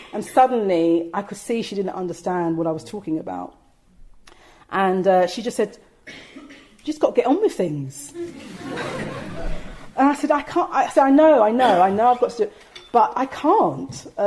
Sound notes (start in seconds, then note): 8.1 audience laughing